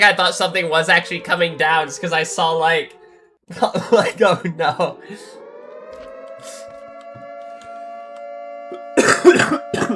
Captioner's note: laughter